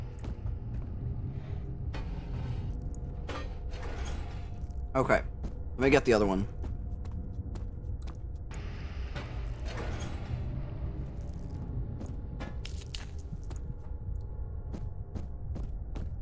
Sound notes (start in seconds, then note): none